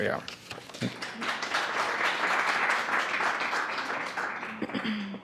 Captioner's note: audience claps